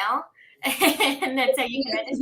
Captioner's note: laughing